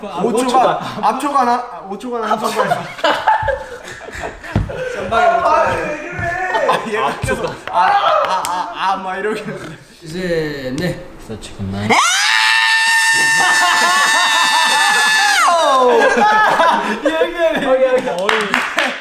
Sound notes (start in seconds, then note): 1.2 mispronounce; 11.8 explosion of screaming